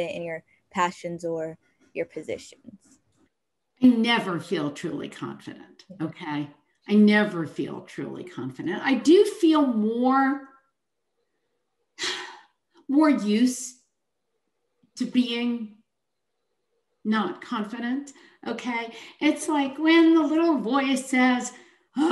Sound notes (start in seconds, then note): 11.6 sighs